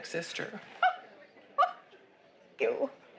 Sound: laughing

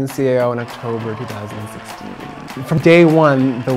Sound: crowd cheering

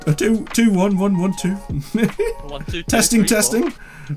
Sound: laughing

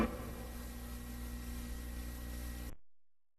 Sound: VHS static

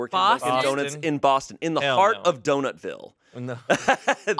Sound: laughs

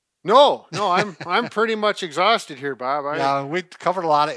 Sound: laughs

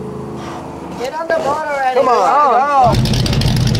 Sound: all Shouting

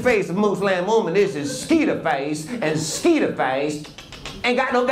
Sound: clicking teeth

